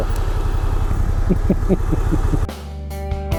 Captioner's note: laughs